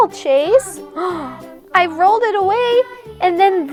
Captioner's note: gasps